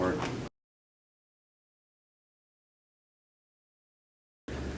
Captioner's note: silence